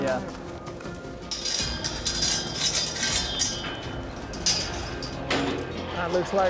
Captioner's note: gate clanking